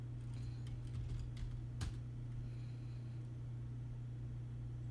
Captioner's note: typing